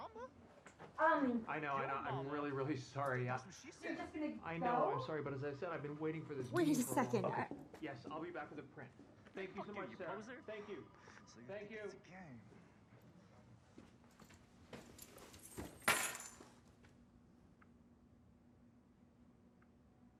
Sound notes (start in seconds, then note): 14.9 keys clanking